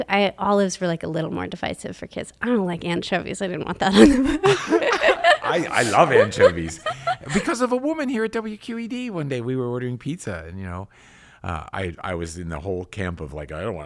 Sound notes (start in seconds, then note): 3.9 laughs; 5.6 both laughs